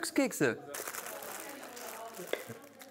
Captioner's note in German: Rascheln